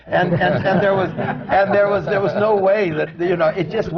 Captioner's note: laughter